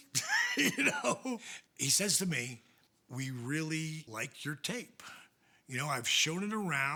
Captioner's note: laugh